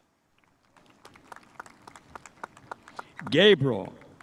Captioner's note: spectators applauding